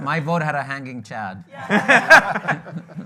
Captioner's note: laughing